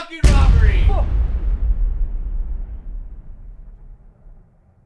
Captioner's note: explosion booms